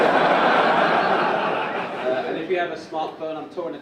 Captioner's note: audience laugh